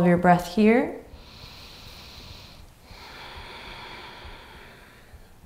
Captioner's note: inhaling and exhaling deeply